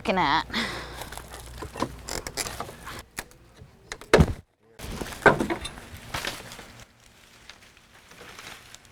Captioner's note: cracking/snapping of wood as the pry bar removes lattice